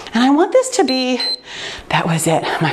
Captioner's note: timer beeps